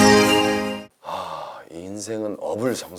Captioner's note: sigh